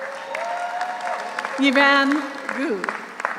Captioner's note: audience cheers; audience applauds